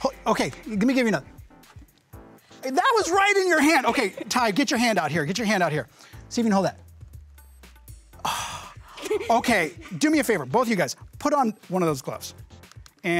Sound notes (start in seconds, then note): 8.2 sigh